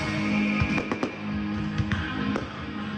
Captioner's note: firecrackers booming